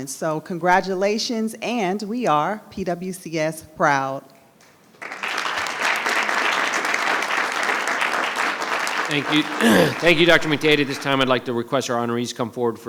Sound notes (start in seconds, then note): 5.0 audience applauding; 9.4 clears throat